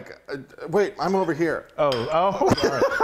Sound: laughing

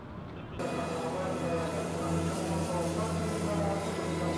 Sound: train announcer speaking Japanese

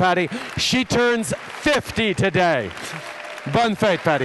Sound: applause

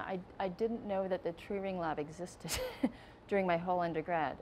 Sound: laughing

